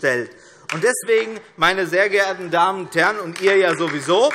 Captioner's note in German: Demonstrativer Beifall DIE LINKE